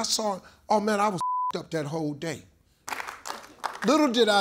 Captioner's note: beep; audience claps